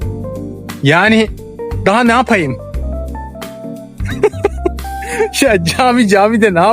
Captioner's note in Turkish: kahkaha